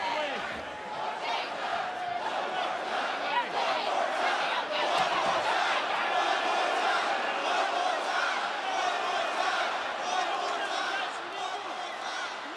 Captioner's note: crowd chants